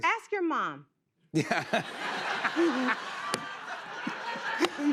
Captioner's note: laughter